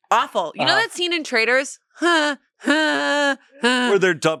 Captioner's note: makes sound effects